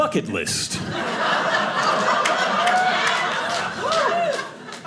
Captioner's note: audience laughing